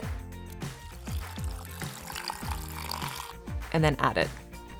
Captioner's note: juice pouring